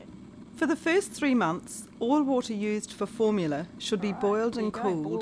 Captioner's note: sound of boiling kettle